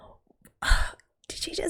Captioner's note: exhales